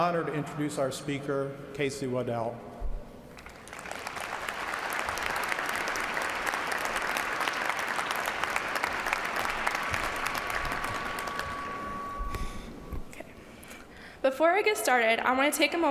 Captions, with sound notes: HER GREAT GRANDMOTHER BONNIE BARTLEY. IT IS MY GREAT PLEASURE AND HONOR TO INTRODUCE OUR SPEAKER, KASEY WADDELL. [ APPLAUSE ]